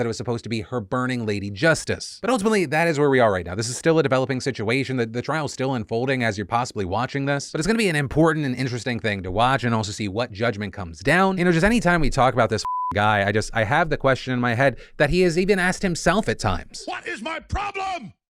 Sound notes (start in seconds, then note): 12.6 beep